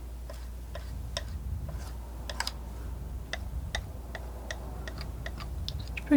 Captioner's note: tapping